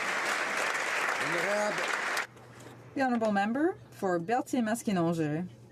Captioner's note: applause